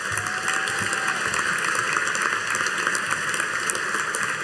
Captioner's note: audience applauding